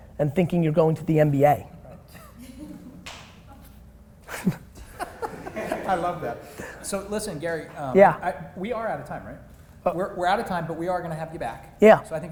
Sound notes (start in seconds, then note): 2.2 laughter; 4.3 laughing